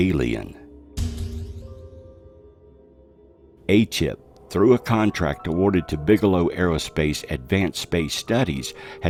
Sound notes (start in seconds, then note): 0.8 doors thudding